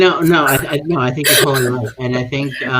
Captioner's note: chuckling